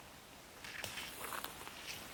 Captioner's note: rustles